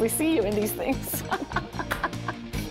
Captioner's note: laughter